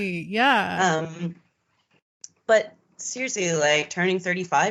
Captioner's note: none